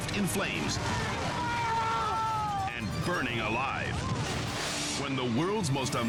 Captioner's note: people shouting